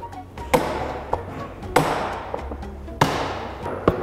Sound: hammer banging

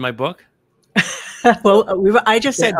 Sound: laughs

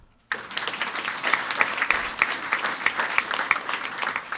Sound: audience applauding

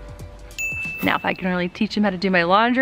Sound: bell dings

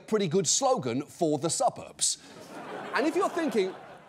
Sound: audience laughs

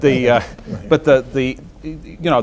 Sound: laughter

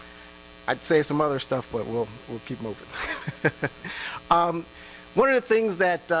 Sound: laughs

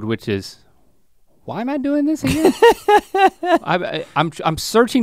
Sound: Rhett laughs

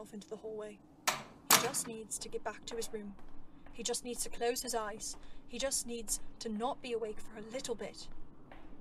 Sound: the doors close

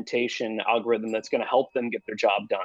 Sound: bell dings

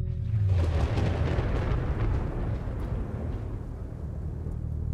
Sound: thunder rumbling

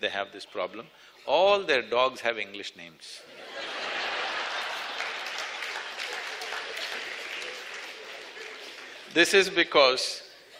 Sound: laughter/Applause

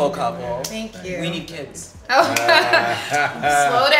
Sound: couple laughs

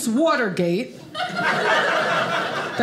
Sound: audience laughing

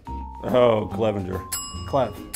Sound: bell dings

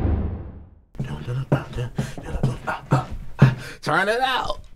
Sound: beat boxing

